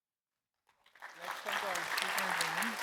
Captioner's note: audience applauds